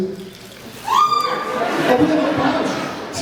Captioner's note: cheer, murmurs